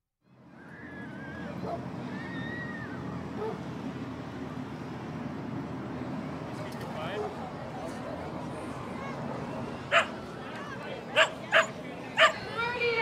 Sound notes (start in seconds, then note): 0.4 wind blowing; 0.5 kids screaming; 3.4 dog barking; 9.9 dog barking